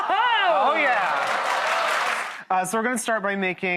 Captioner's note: applause